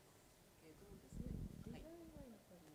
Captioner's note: speaking japanese